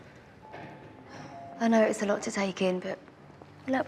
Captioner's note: elevator dings